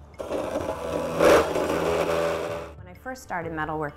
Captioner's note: machine grinding